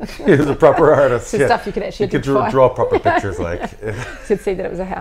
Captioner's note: laughs